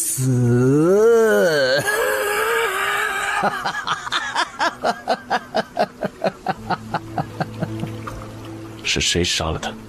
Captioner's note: manic laughter